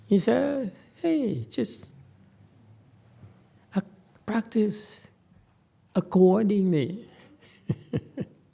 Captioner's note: laughs